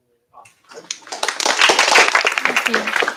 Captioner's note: applause